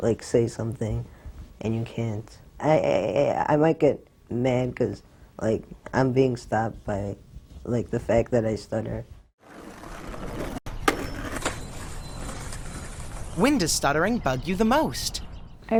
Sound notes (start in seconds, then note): 9.4 skateboard grinding; 15.5 nature sounds